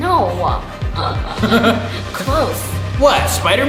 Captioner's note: laughing